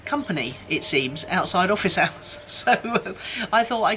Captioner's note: laughs